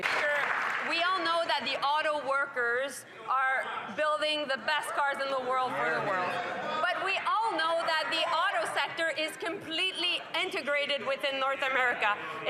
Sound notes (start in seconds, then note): 0.0 some Applause; 5.7 speaking French